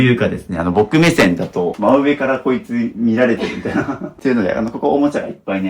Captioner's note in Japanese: 笑い